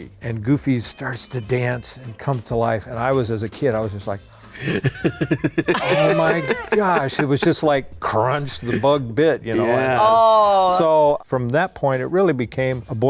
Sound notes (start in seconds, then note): 4.5 laughing